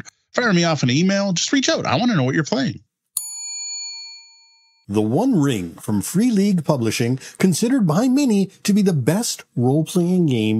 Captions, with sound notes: Fire me off an email, just reach out. I wanna know what you're playing. (bell ringing) The One Ring from Free League Publishing, considered by many to be the best role-playing game